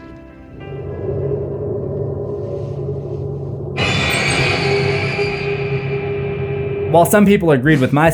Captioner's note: horror sounds